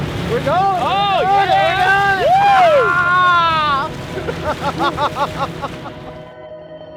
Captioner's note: cheering; laughing